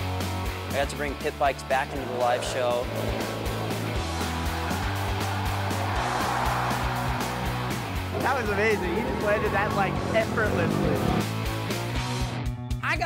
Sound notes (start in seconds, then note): 4.0 cheering